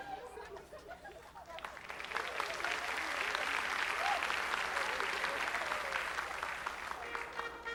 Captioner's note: applause